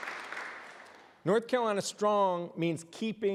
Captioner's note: applause